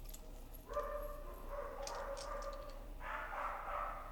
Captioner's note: dogs bark